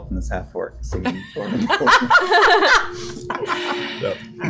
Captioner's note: laughter